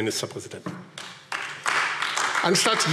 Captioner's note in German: Beifall AfD